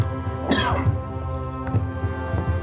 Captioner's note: coughing